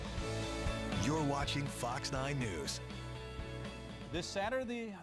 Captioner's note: voiceover